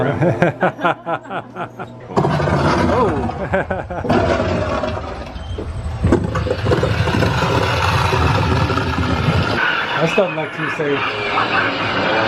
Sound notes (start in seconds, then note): 0.0 laughter; 2.1 rumbling